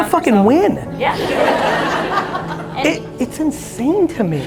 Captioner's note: audience laughs